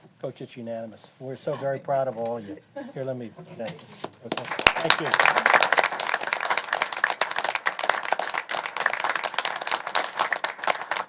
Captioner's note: applause